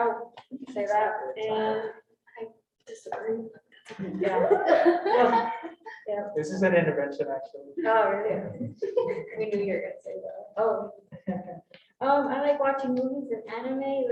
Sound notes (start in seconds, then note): 3.9 students chuckle